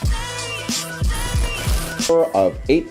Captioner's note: static sound